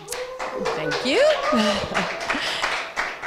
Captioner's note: applause